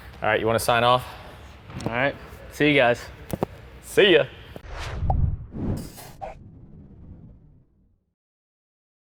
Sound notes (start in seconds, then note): 4.6 logo whooshing